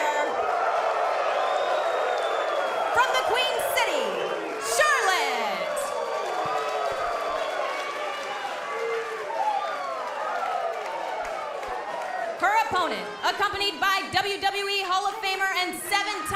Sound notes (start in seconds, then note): 2.8 cheers and applause